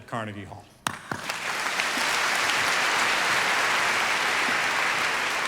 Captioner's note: audience applauding